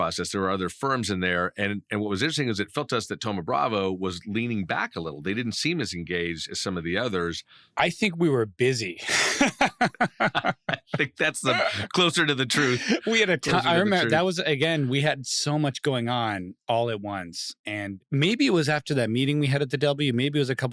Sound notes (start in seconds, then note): 9.0 laughs